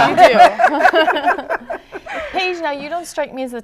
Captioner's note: laughter; laughing